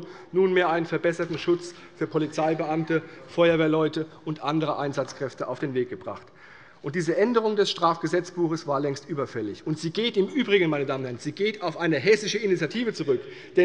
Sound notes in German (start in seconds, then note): none